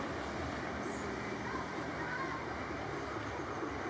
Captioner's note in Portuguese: vozerio distante de crianças